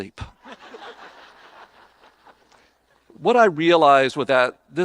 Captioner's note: audience laughing